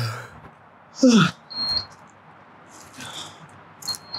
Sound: yawn

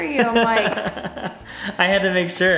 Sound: laughs

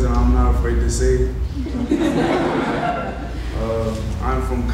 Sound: audience laughing

